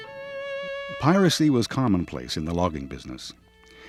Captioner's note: voiceover